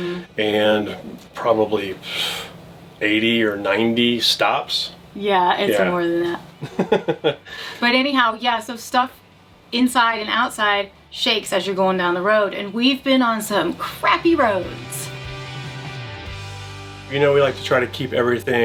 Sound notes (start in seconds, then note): 6.5 laughing; 15.4 upbeat music